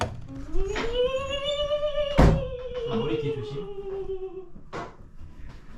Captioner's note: bizarre sound comes out as soon as the door is opened